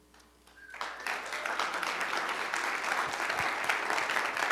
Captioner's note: applause